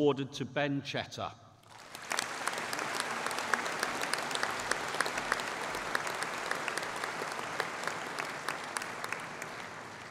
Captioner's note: applause